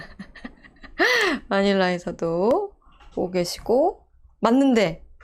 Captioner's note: laughing